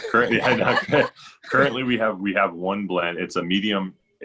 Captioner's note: laughs